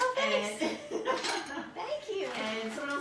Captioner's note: laughing